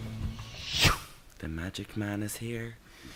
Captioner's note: whooshing